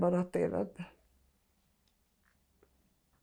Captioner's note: pauses 17 seconds